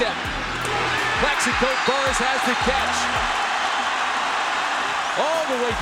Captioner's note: crowd cheering